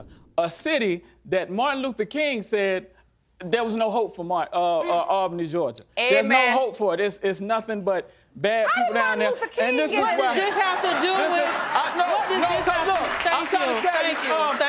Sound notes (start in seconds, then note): 10.0 audience laughing